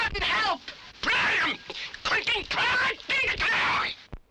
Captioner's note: complaining in strange language